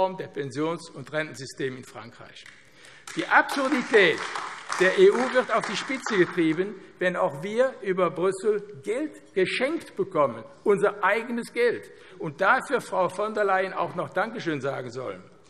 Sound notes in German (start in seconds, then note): 3.0 Beifall AfD